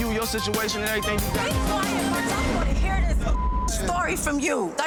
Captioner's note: beeps